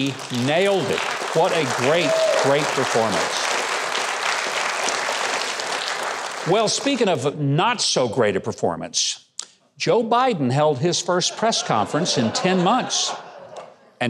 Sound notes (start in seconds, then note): 0.2 audience clapping; 3.4 audience clapping; 11.2 audience laughing